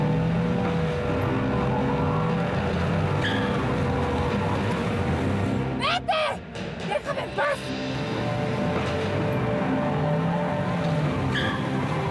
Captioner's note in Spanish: ruido del motor de los autos